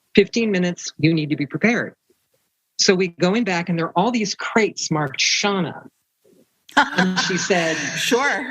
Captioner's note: laughter